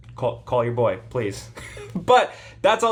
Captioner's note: chuckles